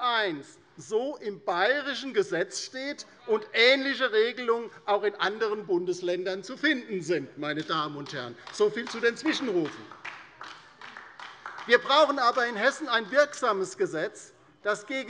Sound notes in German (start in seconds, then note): 10.0 Beifall bei der LINKEN